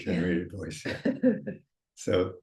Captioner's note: chuckling